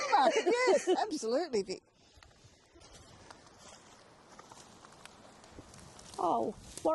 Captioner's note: laughing